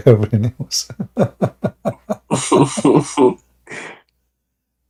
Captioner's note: Ketawa